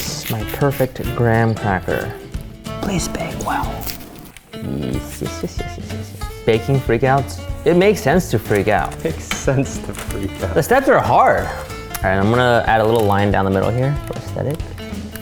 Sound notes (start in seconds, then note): 4.7 cheeky laugh